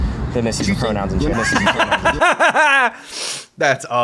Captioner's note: laughs